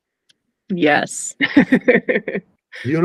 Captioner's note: laughing